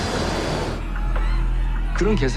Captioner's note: engine whines; passengers screaming; speaking foreign language